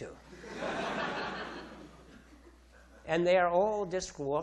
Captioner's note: audience laughing